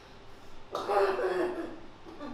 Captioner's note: cough